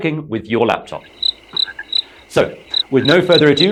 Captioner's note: and the cricket sounds